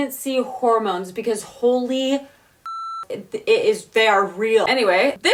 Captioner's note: beep